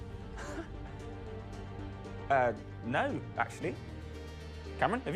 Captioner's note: laughing